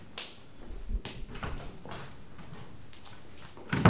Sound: firm footsteps; heavy door opening; heavy door slamming

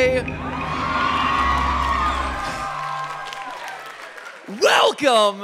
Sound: audience cheering

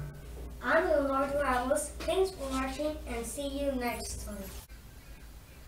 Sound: sci-fi portal

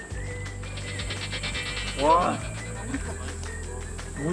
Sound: eating with all his strength

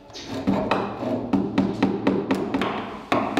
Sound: fast hammering

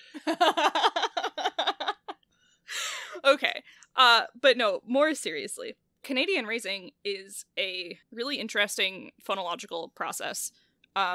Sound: laughs

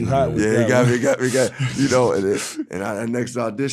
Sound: laughing

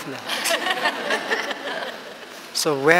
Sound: laughter

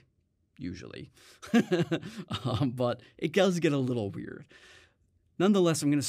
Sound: chuckles

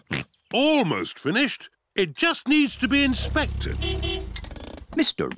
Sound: george oinks; oinks; horn beeps

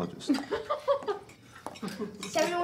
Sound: mother laughs

